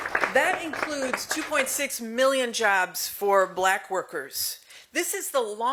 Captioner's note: applause